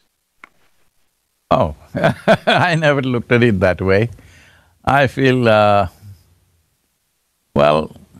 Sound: laughs

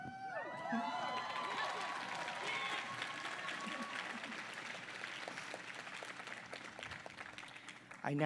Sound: applause

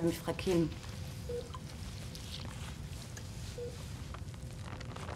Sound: monitor beeping steadily

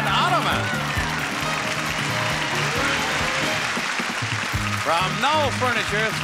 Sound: clapping and cheering; upbeat music

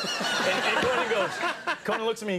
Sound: audience laughing

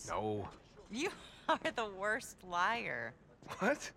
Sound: laughing

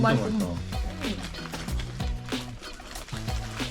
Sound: non-stopping slurps

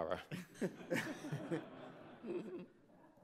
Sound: laughs

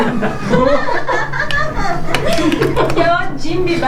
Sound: laughs

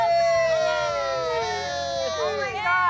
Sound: cast cheers

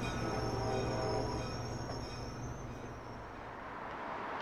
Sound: train horn blaring

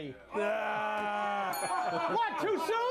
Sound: audience jeers; bell rings

